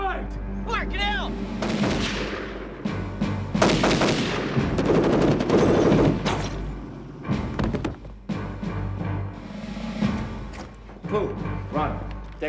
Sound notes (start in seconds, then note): 0.2 dramatic music; 3.3 thudding